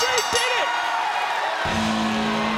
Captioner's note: bell ringing; rock music; crowd cheering